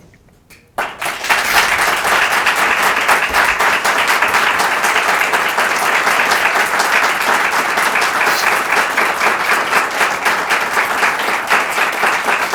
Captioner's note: applause